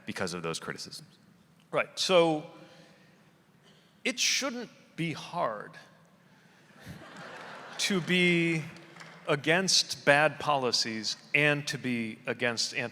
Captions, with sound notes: because of those criticisms? - Right, so, it shouldn't be hard (audience laughing) to be against bad policies and to be against antisemitism.